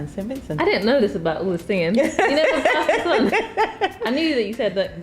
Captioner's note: laughing